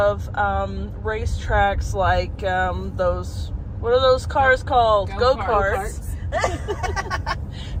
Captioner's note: laughter